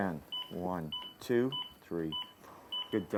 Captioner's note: voiceover